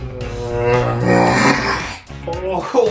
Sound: screams

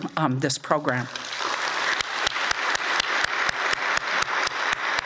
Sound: audience applauds

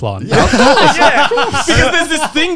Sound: all laughing

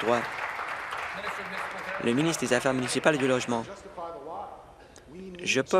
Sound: applause

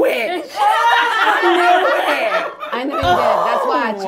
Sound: all laughing

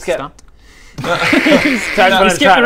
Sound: in-joke giggles

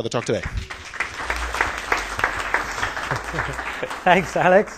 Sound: applause

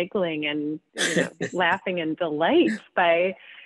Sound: laughing

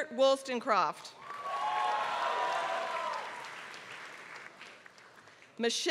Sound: applause

